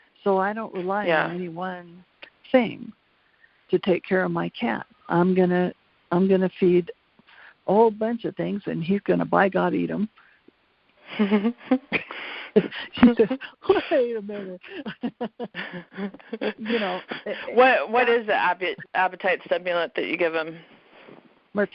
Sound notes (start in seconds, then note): 11.1 laughs